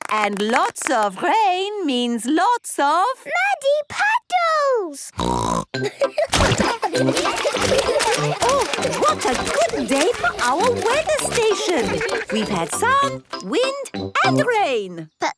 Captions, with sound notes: And lots of rain means lots of? - Muddy puddles! (snorting) (laughter) - Oh, what a good day for our weather station. We've had sun, wind and rain.